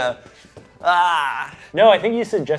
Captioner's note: groans